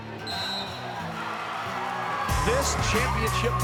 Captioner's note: whistle blows